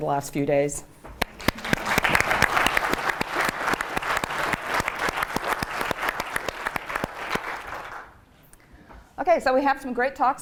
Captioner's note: applause